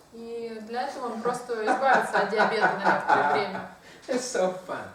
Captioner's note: hahaha